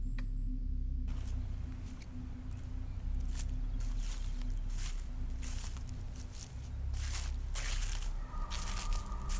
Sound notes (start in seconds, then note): 1.1 footsteps pattering; 3.8 eerie music